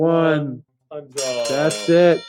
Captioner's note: bell ringing